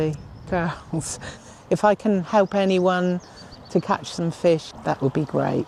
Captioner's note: laughs